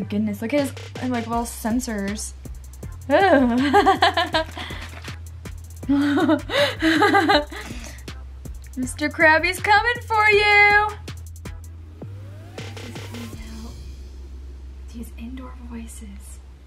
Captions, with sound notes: Oh my goodness, look at his little sensors. (laughs) Mr. Crabby's coming for you! Please come out. Use indoor voices.